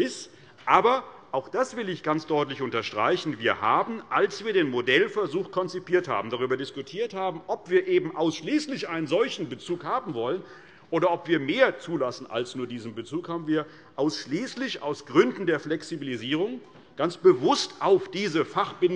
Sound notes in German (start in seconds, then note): none